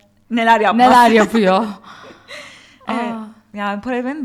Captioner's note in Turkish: kahkaha